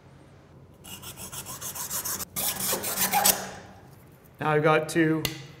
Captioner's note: saw scraping